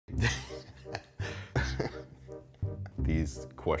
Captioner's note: laughing